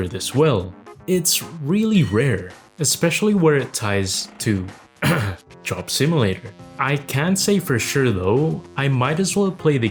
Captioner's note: cough